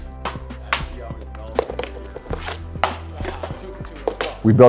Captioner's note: faintly speaking